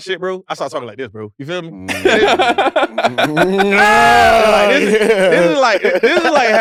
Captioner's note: laugh